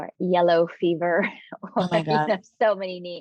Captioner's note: chuckling